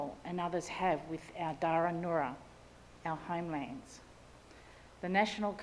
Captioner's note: speaks in Ngunnawal language